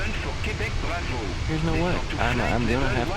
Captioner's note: radio chatter